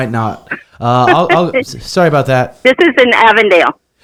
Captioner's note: receptionist laughs